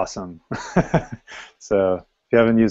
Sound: laughter

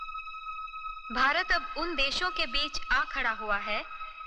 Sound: tv Playing

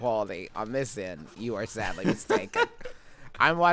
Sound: laughing

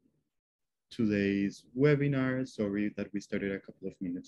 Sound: speaking in english

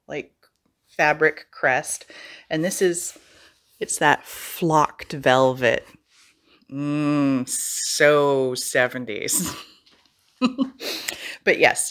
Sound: giggle

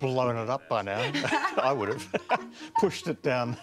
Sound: both laugh

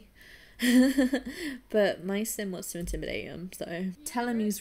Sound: laughs

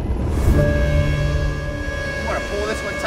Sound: machinery screeches

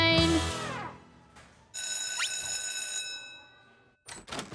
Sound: bell rings

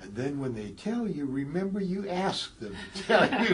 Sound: laugh

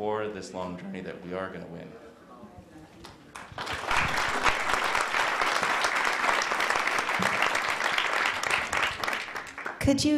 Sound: applause

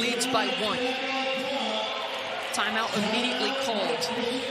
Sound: crowd noise

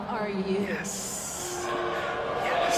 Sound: crowd booing

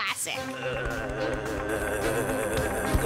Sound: vibrating groans

